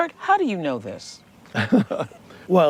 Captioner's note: chuckles